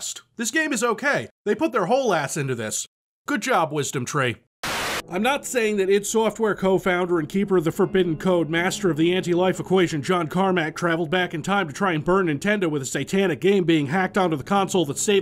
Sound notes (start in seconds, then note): 4.6 TV buzzing